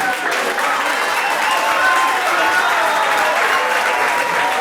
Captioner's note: audience applauds